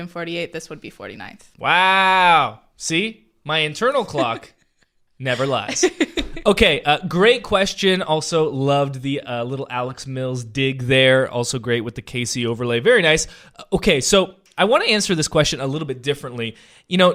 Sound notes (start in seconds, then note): 5.2 laughing